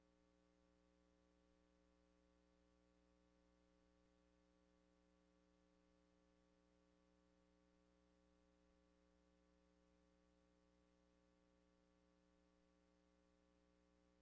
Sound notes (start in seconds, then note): none